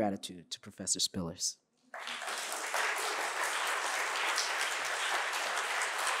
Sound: audience applauding

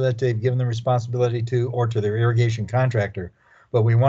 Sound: chuckling

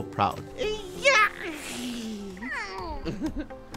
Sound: screaming playfully; baby cooing; laughing

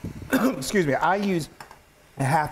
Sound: cough

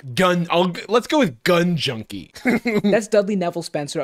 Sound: chuckles

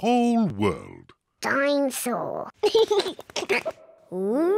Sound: giggles

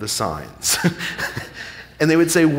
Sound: chuckling

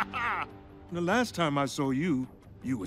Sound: laughs

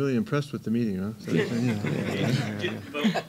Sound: laughing

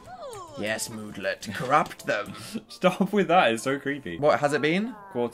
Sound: laughing

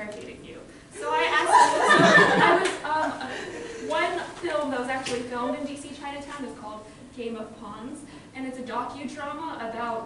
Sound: loud laughter

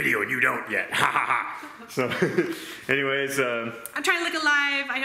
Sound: laughs

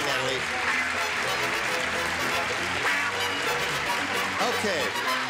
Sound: applause; theme music

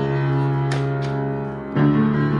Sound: turning the page

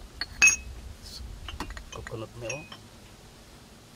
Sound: chef speaking

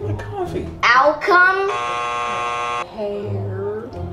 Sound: buzzer buzzing

